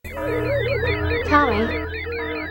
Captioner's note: alarm honking